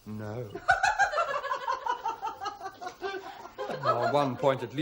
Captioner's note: shrieking laughter